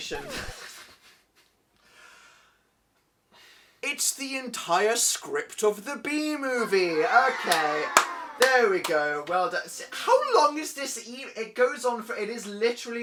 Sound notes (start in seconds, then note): 0.0 record scratch; 0.0 laughs; 3.3 sighs; 6.6 wow sound effect